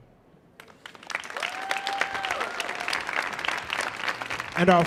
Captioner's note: audience cheering